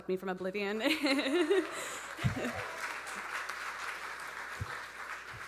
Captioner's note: audience laughing